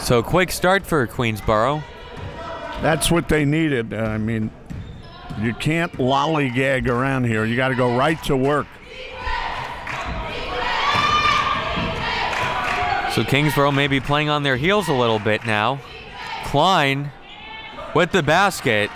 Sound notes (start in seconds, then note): 9.6 claps; 12.2 claps; 18.7 crowd murmuring